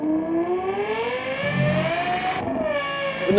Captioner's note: car revving